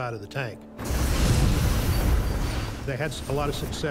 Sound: flamethrower roaring

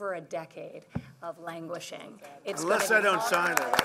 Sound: applause

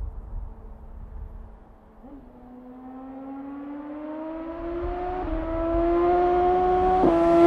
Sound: s1000r flyby incoming

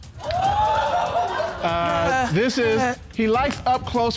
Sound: audience exclaiming

